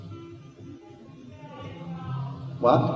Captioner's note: mumbled yell from crowd